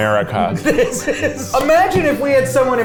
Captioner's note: laughing